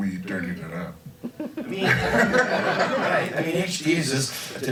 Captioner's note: crowd laughs